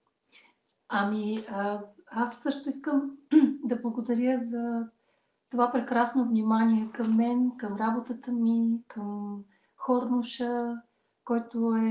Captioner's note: foreign Language followed by English Interpreter